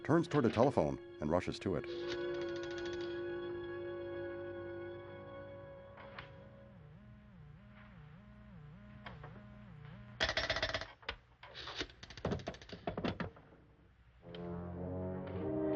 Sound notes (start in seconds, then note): 1.9 dial clicking; 6.4 pulsating tone; 10.5 dial clicking